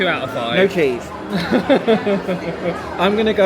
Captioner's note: laughs